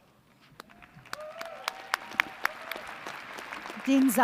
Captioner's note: applause